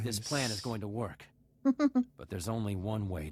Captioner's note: chuckles